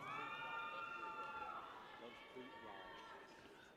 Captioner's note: people cheer